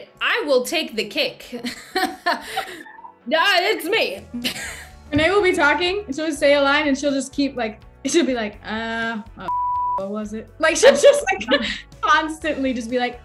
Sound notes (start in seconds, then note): 2.4 laughs; 9.4 beep